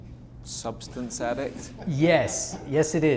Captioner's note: laughs